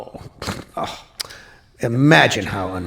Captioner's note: scoffs